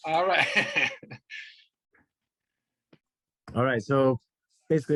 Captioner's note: laughs